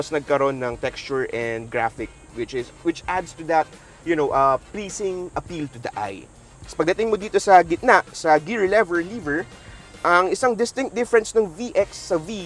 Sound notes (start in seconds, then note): none